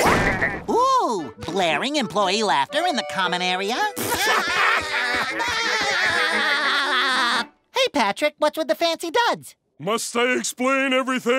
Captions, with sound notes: Ooh! Blaring employee laughter in the common area? [laughing] Hey, Patrick, what's with the fancy duds? Must I explain everything?